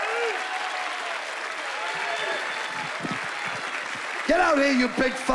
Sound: cheering and applause

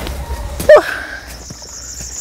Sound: sigh

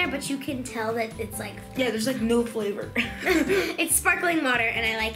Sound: laughs

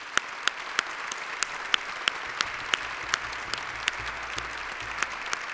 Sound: applause

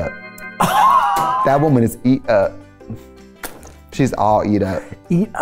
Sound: laughs

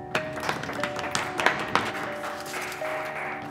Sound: meager applause

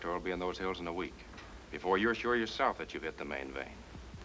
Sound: none

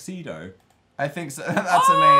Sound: laughs

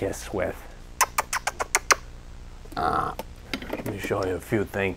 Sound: imitating lips smooching

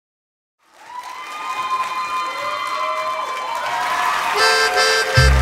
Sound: Gritos y aplausos

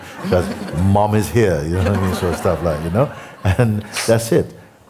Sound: laughter

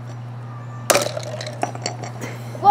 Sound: cracking

